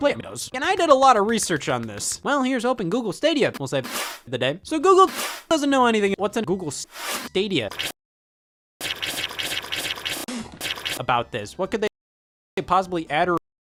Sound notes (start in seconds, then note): 3.8 spit; 5.0 reversed spit